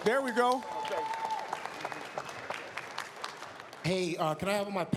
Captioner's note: applause, cheers